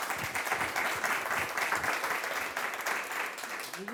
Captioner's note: applause